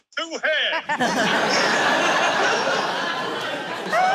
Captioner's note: laughter